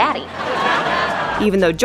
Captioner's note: crowd laughs